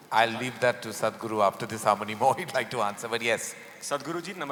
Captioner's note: laughs